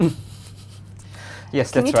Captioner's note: laughs